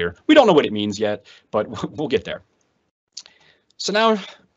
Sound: laughs

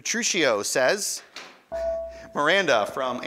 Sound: ding

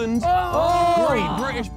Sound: men cheering

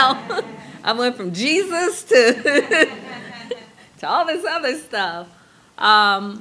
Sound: laughs

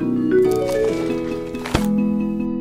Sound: crunching; page Turn; happy Music

